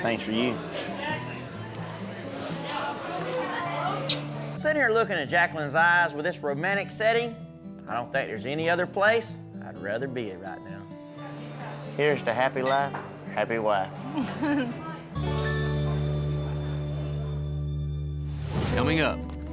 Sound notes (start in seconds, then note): 12.6 glasses clink; 14.0 giggles